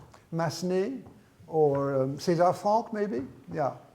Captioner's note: speaks in foreign language